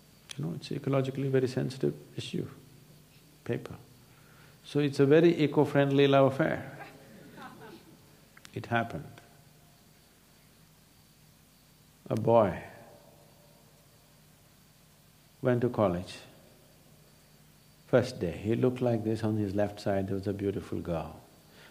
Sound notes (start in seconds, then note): 7.1 laughter